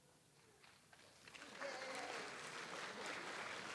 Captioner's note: audience applauds